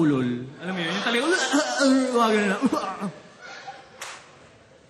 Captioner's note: slurred barking